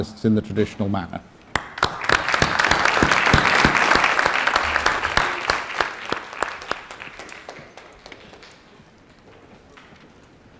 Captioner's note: applause